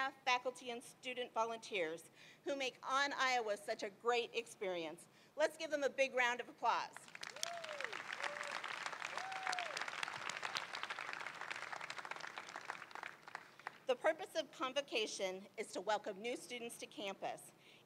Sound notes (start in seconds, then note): 7.1 crowd cheering